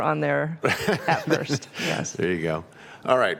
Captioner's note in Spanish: Risas